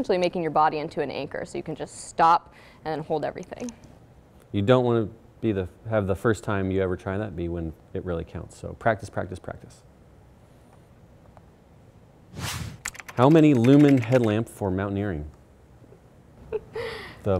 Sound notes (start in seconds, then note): 12.3 air whooshing; 12.8 keyboard clicking; 16.4 giggles